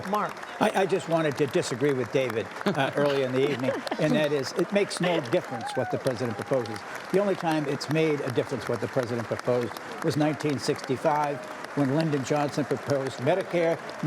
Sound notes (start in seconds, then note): 2.6 laughter